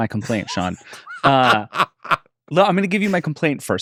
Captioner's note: laughs